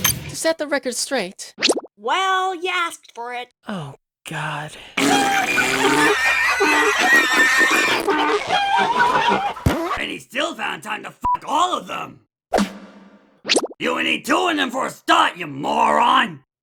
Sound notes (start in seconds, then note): 5.0 many farm animal sounds and fart sounds